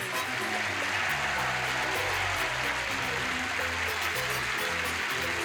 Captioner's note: cheers and applause; upbeat music